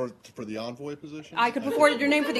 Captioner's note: laughter